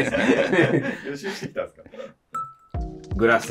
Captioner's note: laughing